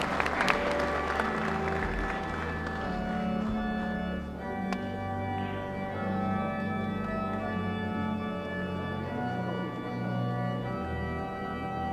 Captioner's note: applause